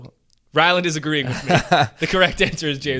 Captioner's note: laughing